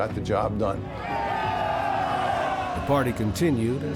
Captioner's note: crowd cheering